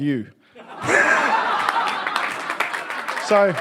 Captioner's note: audience laughs